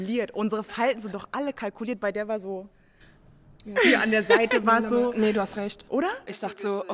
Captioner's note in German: Gelächter